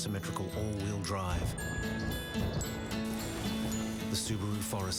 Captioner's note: thunder rumbles